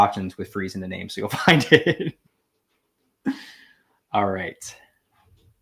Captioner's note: laughing